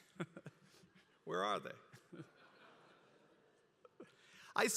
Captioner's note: laugh